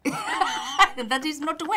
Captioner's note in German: lachen